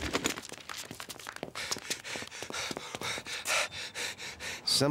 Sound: cameraman panting

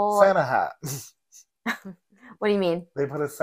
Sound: laughs

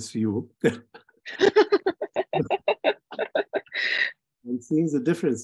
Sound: laughing

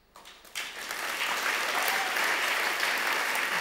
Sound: applause

